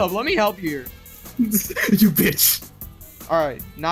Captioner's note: laughs